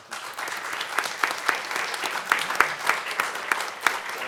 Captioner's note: audience clapping